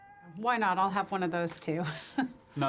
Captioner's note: laughs